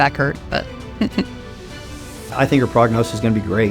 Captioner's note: chuckles